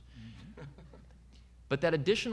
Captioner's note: audience member laughing